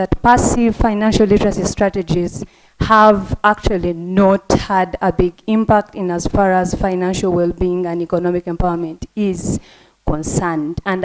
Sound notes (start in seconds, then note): none